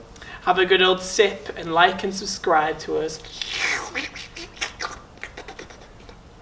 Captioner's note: weird sucking noise again